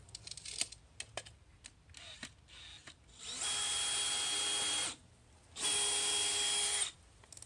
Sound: drill; drill clicking

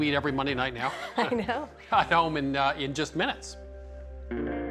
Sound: chuckling

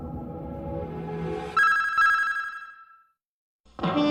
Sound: signals beeping

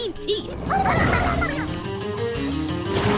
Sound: squeaking

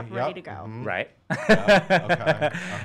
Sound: laughing

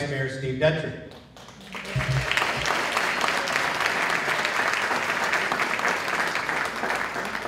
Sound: applause

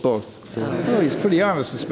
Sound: laughter

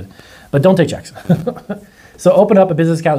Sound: laughs

